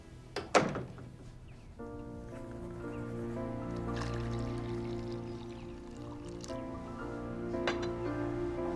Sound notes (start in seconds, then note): 0.4 door clicks; 1.0 light music; 3.6 liquid trickling